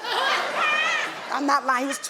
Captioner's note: audience laughing